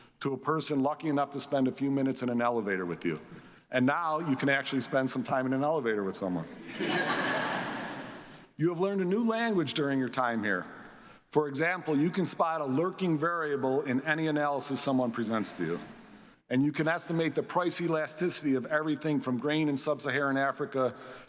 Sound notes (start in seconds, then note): 6.6 audience laughs